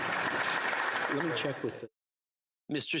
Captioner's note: applause